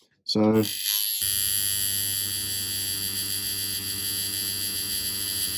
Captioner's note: machine whirring